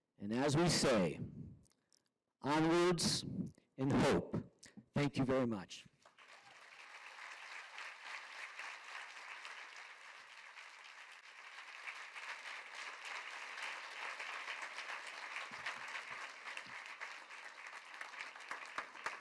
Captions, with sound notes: And as we say, onward in hope. Thank you very much. [cheers and applause]